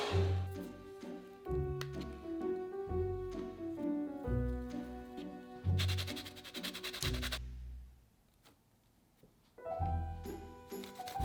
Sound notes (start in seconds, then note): 5.8 grating